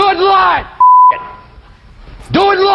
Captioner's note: beep